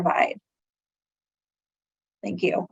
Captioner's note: silence